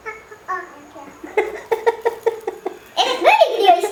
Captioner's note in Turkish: babanın gülme sesi